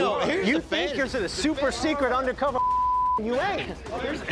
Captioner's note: beep